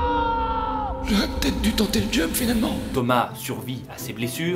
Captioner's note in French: voix de vieillard